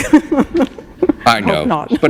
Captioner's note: chuckle